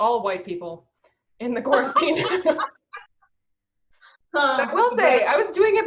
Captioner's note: laughs